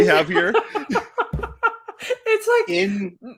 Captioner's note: laughing